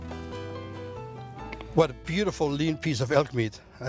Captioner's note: cutting and mumbling